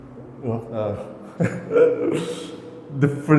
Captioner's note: giggling